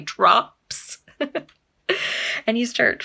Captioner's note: giggles